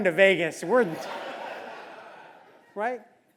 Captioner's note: laugh